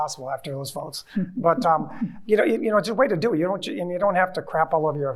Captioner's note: chuckling